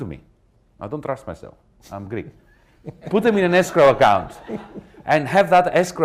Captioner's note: laughter